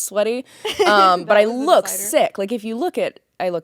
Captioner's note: laughing